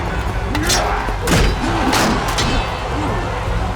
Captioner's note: crowd cheering